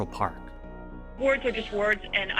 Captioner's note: soundbite of archived recording